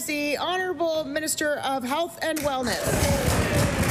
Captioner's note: applause